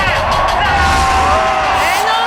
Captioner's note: crowd roars